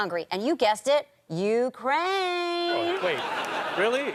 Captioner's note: sing-song